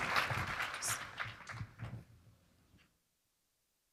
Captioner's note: applause